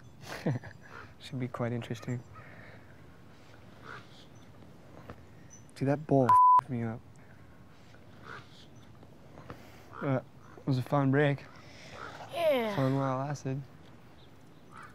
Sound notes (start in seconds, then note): 0.2 laughs; 6.2 beep